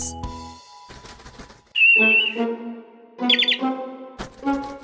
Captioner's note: chirps